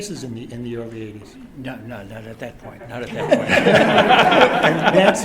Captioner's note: laughter